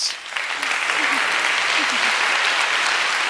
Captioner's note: applause